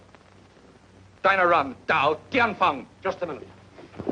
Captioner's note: speaks foreign language